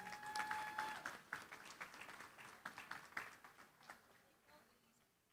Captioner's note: applause